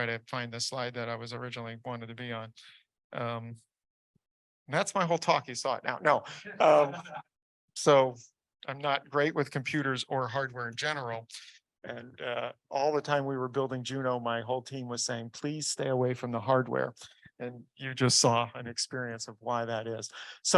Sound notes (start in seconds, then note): 6.4 audience laughs